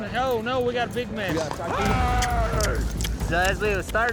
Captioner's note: kissing sound